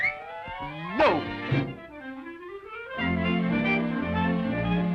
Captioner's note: bubble popping